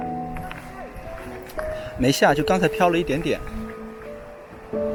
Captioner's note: rain